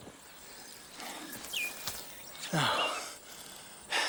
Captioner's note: sighs